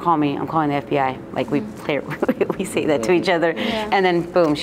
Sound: laughs

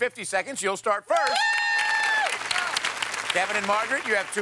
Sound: both cheer

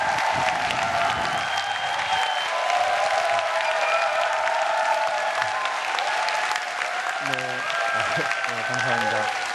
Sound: applause

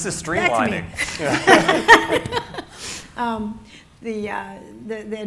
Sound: audience laughing; laughs

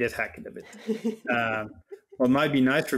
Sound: laughing

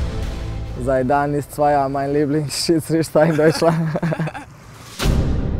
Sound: laughs

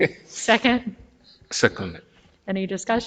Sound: laughs

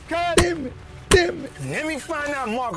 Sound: head thumps

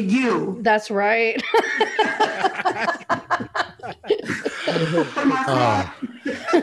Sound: laughter

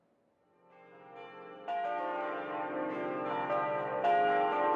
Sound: bells tolling

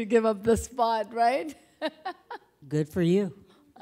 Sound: laughing

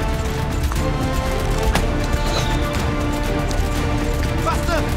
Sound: bow creaks; arrow whooshes

